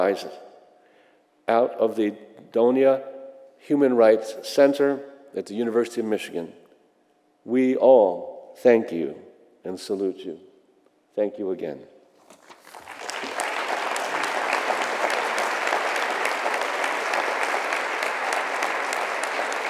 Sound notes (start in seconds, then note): 12.5 applause